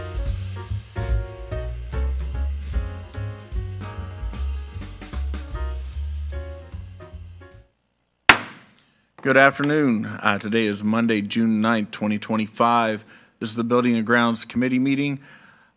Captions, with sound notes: (bright music continues) (gavel thudding) - Good afternoon. Today is Monday, June 9th, 2025. This is the Building and Grounds Committee meeting.